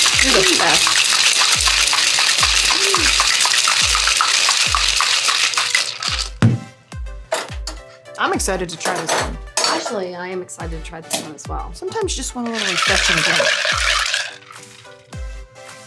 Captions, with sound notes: You're the best. (ice rattling in shaker) I'm excited to try this one. - Actually, I am excited to try this one as well. - Sometimes you just a want a little refreshing drink.